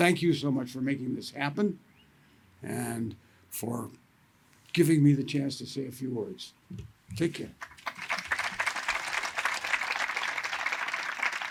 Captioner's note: applause